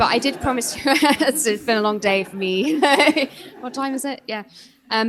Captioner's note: laughs